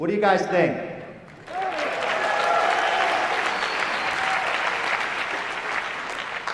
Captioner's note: applause